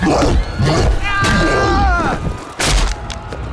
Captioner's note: roars; yells; bone cracks